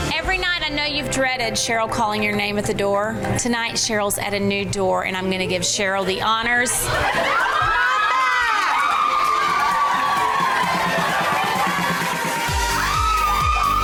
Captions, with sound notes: Every night, I know you've dreaded Cheryl calling your name at the door. Tonight, Cheryl's at a new door and I'm gonna give Cheryl the honors. (women cheering) (upbeat music) - Come on back. (women cheering) (upbeat music)